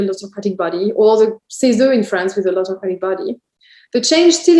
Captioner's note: speaks French